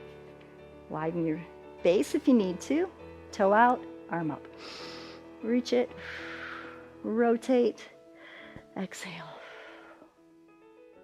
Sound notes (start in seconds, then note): 4.5 exhales; 6.0 inhales